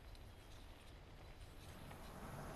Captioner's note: birds tweeting distantly